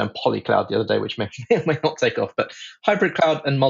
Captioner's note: laughs